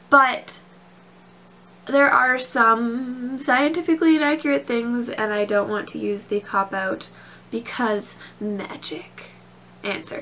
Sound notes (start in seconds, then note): none